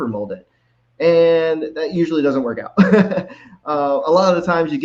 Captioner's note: laughs